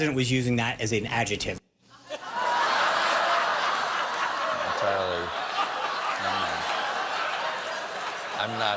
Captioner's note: laughter